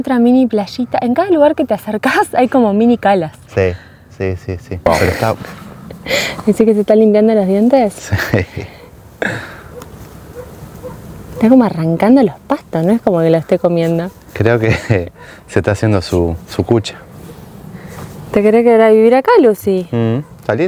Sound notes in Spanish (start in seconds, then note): 9.2 carraspeo